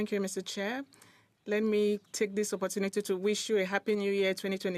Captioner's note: speaking in French